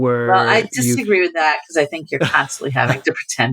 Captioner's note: laughter